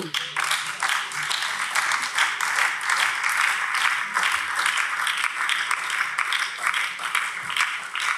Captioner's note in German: Beifall BÜNDNIS 90/DIE GRÜNEN